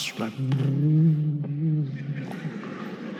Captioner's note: Eckhart imitating the sound of a wave; audience laughing